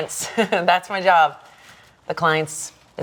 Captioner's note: laughing